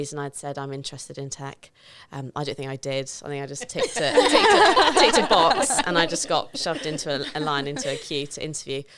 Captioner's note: laughing